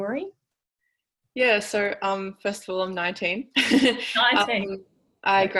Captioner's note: laughs